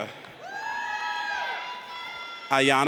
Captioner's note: audience cheers